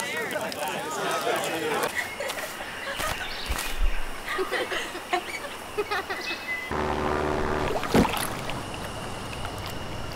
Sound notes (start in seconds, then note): 1.8 laughing